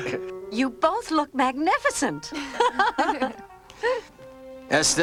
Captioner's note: Mordecai and Derek laugh; Margo and Esther laugh